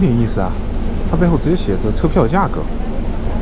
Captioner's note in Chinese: 中文